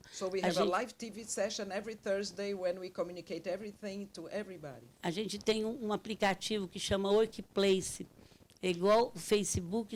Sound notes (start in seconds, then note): 5.2 speaking Portuguese